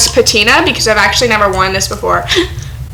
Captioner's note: gasp